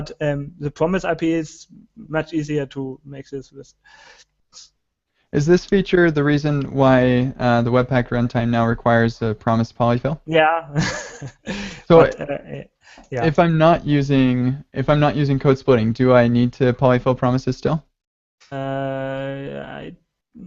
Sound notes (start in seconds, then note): 10.7 laughs